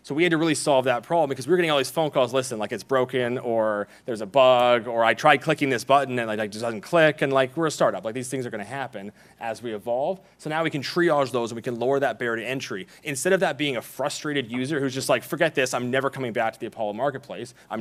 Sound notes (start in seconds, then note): none